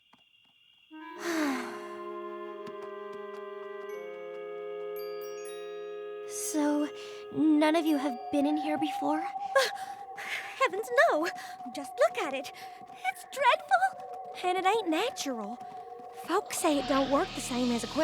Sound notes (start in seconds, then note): 1.1 sighs; 3.8 twinkle! twinkle!